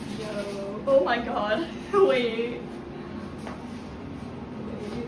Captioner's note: laughing